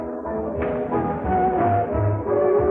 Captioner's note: slap